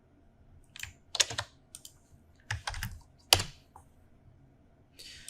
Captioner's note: keyboard keys clicking